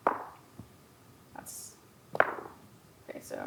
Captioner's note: dice rolling; dice rolling